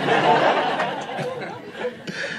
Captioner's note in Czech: smích